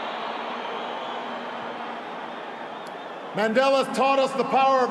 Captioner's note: applause